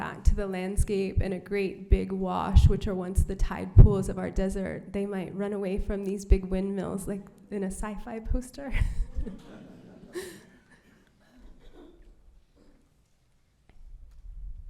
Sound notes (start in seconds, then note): 8.8 laughter